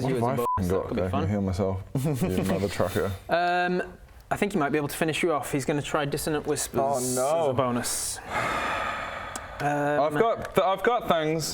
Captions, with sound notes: - as a bonus? That could be fun - What have I f***ing got that I can heal myself? you mothertrucker I think he might be able to finish you off he's gonna try dissonant whispers Oh no as a bonus *SIGH* I've got I've got things